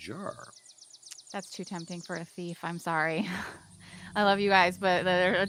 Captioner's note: chuckles